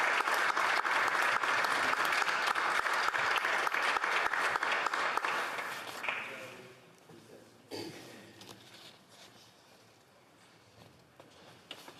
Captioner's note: applause